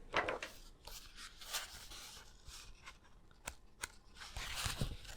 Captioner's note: paper shuffling sounds